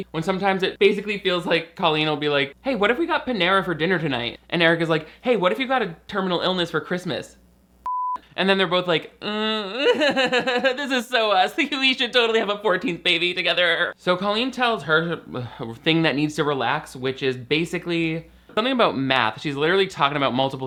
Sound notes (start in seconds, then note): 7.8 beep; 9.6 laughs nervously